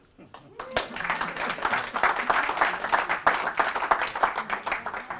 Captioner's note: applause